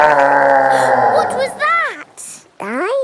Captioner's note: gasps; growling; laughing